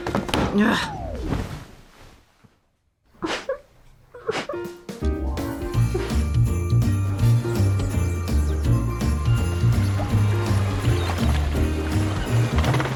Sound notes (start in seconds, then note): 3.3 whimpering